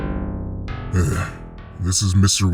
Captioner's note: heavy sigh